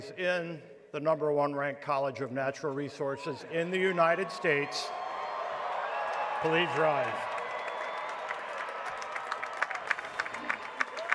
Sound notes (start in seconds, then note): 7.1 applause